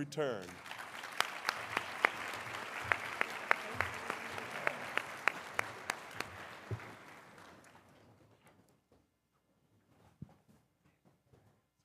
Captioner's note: applause